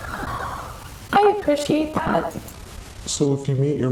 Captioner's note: sighs